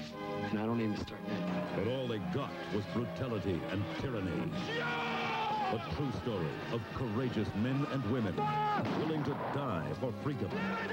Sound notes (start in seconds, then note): 1.4 over horse hooves, yelling; 8.8 gunshot